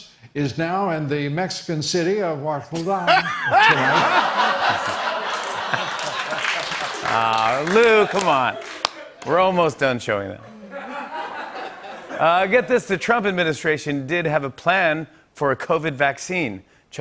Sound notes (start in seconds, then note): 3.0 laughter and applause; 10.4 laughter